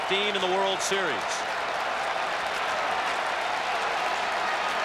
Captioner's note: applause